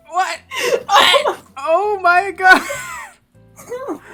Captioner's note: strained; laughing; wheeze; dry heave/laugh